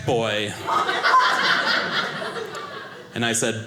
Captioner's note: audience laughing